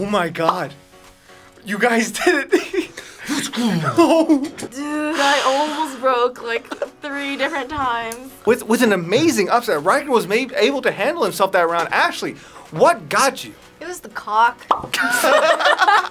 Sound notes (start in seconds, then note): 2.2 both laugh; 6.4 laughs